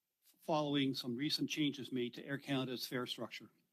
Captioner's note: speaking French